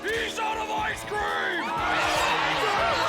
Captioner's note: angry mob shouts